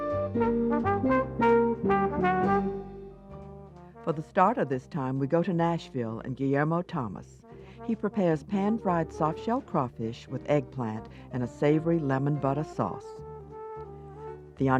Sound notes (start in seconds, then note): 0.0 jazz ensemble music; 4.2 voiceover